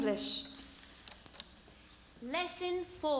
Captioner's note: British accent